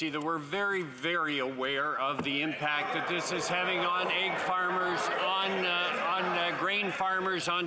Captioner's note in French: voix de l'interprète